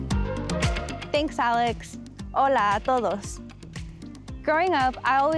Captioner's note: upbeat music; speaks in Spanish